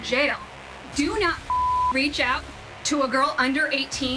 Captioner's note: beep